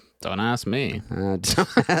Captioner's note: laughing